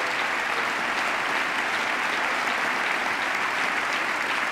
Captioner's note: applause